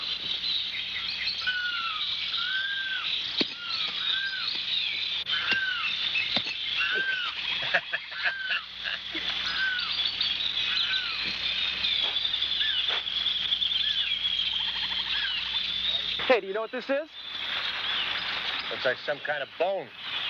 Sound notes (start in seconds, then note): 0.1 birds chirping; 6.8 laughs